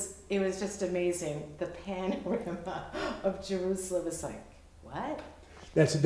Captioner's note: chuckles